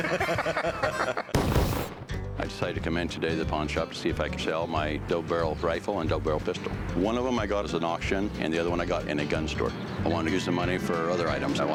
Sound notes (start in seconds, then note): 0.0 laughter; 1.3 gunshot sound